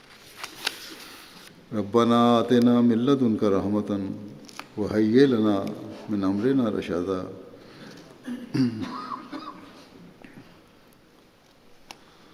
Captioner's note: Arabic